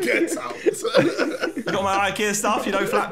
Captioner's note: laughing